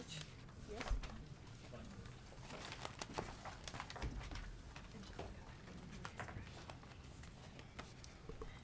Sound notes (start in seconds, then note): 1.0 people murmuring